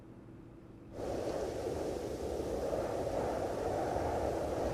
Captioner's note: wind humming